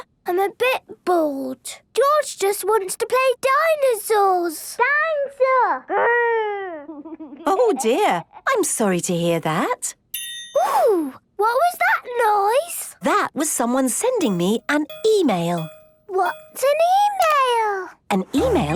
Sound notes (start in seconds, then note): 6.9 George giggling; 10.1 ping!